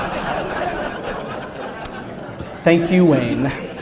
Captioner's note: laughter